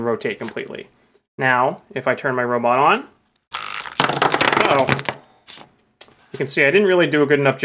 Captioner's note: buzzing noise